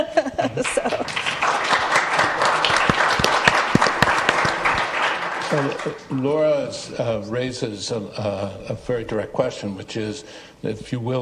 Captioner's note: applause